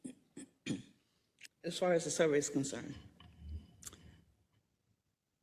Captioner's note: cough